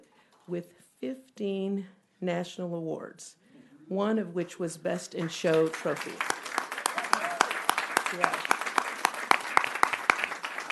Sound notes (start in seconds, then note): 5.2 applause